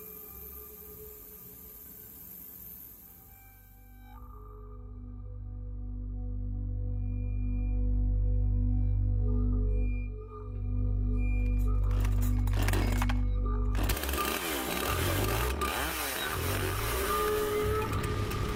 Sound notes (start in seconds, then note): 13.7 Enciende motosierra